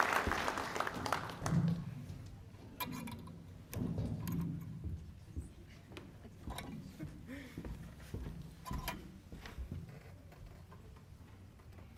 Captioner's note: applause